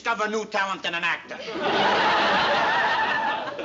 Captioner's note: laughter